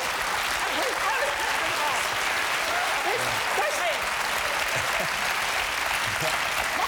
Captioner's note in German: Applaus